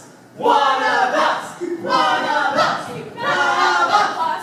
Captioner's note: chanting: *One of us!